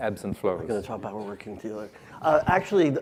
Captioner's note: mumbles